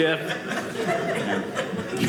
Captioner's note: audience laughing